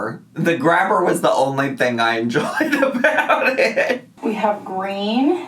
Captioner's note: laughs